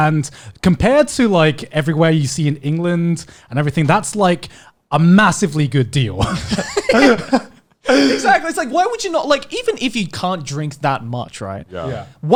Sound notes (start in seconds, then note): 6.2 laughing